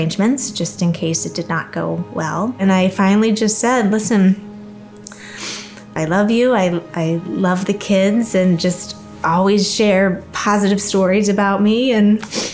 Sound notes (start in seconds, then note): 5.1 sniffles